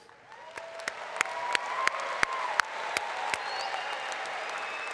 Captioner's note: applause